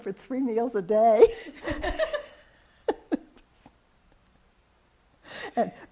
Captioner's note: laughs